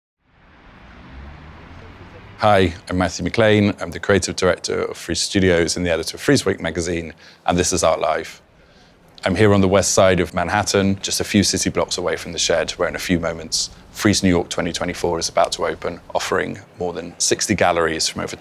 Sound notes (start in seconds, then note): 0.5 street noise